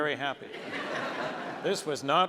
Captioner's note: audience laughs